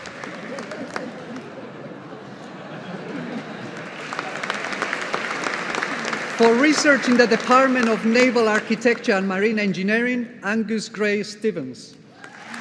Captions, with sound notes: (LAUGHTER) (AUDIENCE APPLAUDING) For research in the Department of Naval Architecture and Marine Engineering Angus Gray-Stephens.